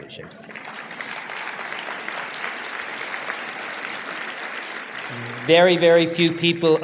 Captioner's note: applause